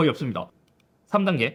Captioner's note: click